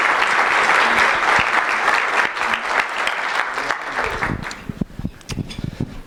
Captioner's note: applause